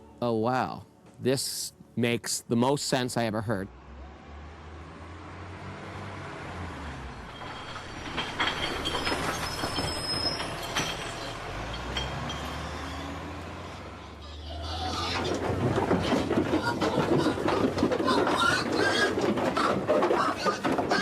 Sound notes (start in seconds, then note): 6.9 metal clanging; 14.2 pigs grunting; 18.5 pigs squealing